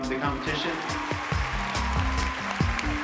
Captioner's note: applause